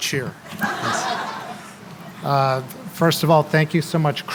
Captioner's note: laughter